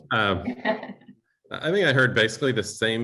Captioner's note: laughter